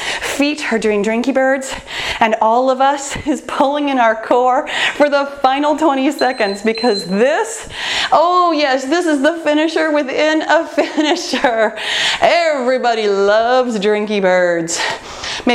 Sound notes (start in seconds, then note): 6.0 timer beeping